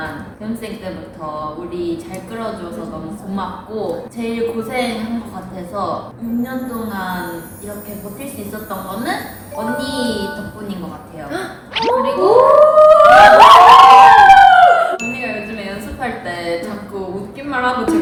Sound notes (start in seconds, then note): 11.7 making animal noises due to the unfamiliar heart warming statement